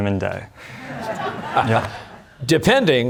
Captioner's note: laughter